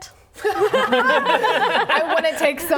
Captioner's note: laughing